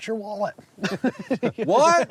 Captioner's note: laughs